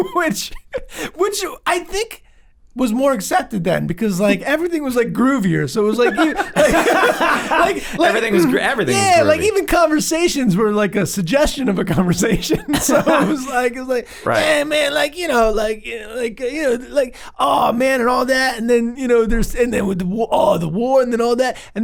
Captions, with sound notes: - Which I think was more accepted then, because like, everything was like groovier. So it was like-- (all laugh) - Everything was groovy. - Yeah, like even conversations were like a suggestion of a conversation. So it was like, hey man, like, you know (murmurs).